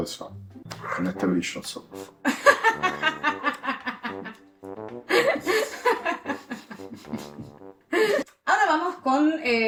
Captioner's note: laughs